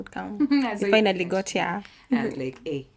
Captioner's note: laughter